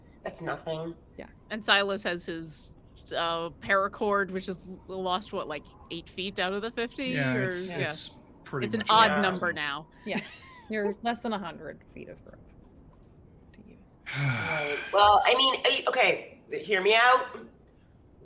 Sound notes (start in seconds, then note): 7.9 speaks faintly; 14.0 Silas sighs loudly